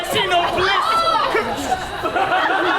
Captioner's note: Snout yells; audience laughs